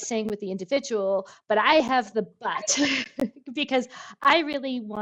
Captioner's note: chuckles